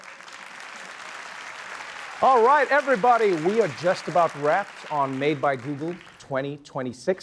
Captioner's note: applause